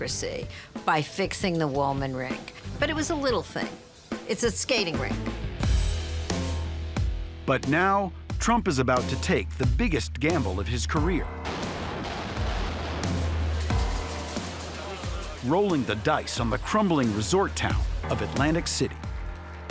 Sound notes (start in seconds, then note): 5.3 dramatic rock music; 11.3 explosions booming; 13.4 indistinct chatter